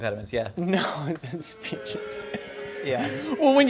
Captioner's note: booing